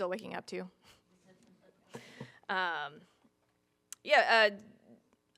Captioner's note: audience chuckling